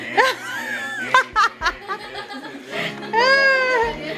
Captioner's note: laugh